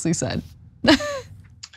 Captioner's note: laugh